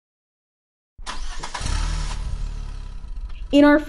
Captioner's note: sound Effect: car engine turning on